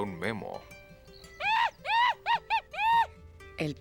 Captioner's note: chittering